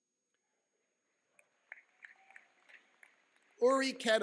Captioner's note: clapping